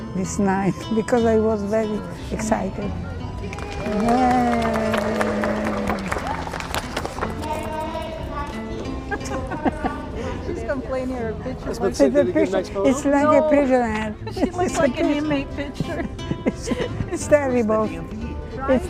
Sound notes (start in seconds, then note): 3.4 group cheers and applauds; 8.8 laughs